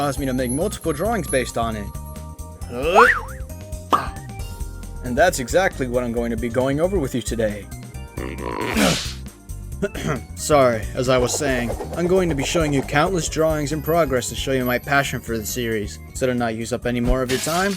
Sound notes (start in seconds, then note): 2.7 grunt